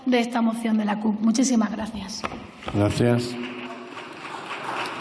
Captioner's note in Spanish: Aplausos